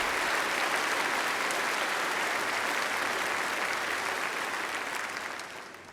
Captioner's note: applause